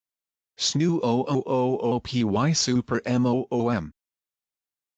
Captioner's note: voiceover